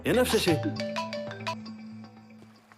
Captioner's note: mobile ringing